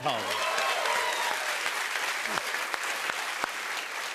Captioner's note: cheers and applause